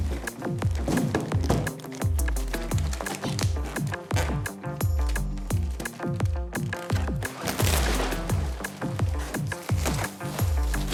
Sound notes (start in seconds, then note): 4.0 plastic squeaking; 7.8 plastic rustling